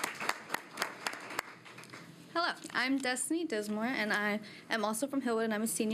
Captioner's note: applause